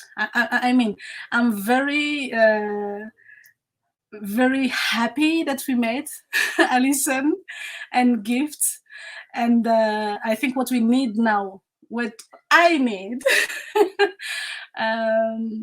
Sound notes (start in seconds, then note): 13.2 laughs